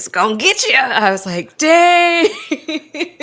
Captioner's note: laughs